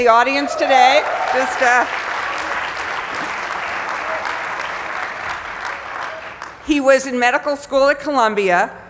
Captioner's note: applause